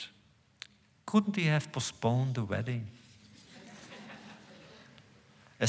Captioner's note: laughter